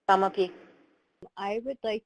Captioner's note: speaking in foreign language